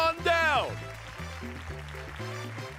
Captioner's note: applause